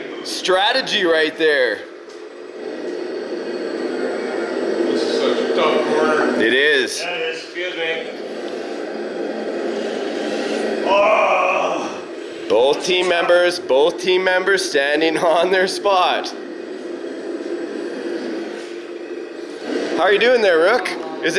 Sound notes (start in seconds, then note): 10.8 man groans